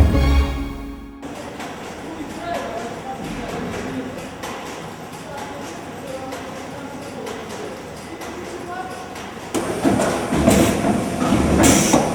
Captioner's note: printing noise